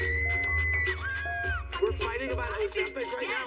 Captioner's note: screams